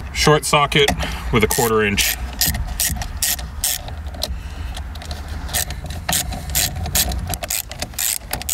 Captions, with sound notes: Short socket with a quarter inch. (mechanical noise)